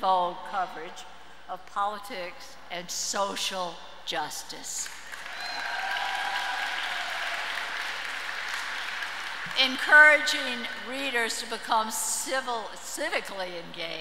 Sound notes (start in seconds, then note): 4.9 audience cheers and applauds